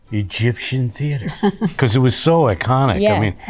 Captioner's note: Rhea laughs